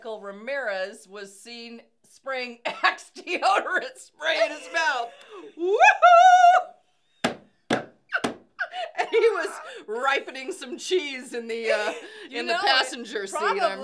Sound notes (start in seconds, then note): 5.3 squealing; 5.3 tapping; 8.6 laughing